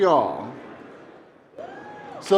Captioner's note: cheering